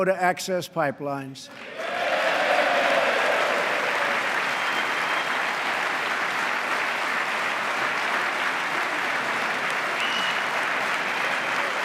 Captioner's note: applause